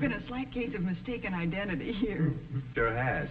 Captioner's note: audience snickering